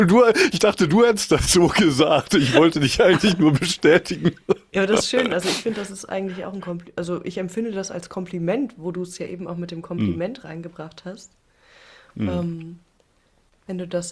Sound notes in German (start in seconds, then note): 1.6 gelächter; 5.2 schnauben; 12.2 räuspern